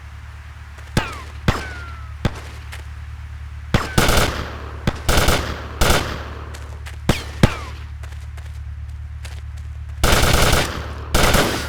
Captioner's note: gun fires